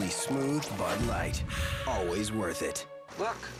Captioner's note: owl hooting